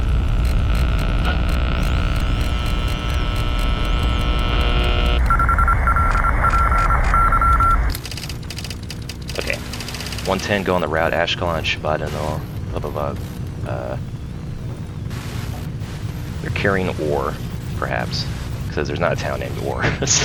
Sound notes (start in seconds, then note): 5.2 beeping from Intercepted Signals; 19.9 laughs